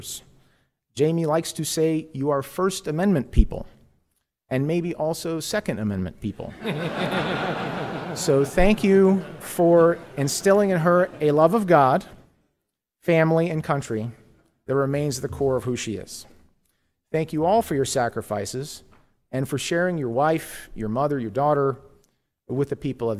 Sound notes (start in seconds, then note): 9.1 laughter